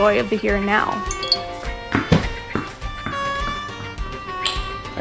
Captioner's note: phone jingle